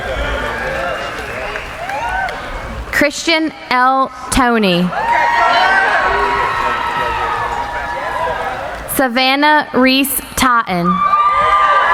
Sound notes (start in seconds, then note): 0.0 applauding; 4.6 cheering